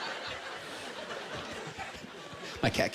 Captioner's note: laughter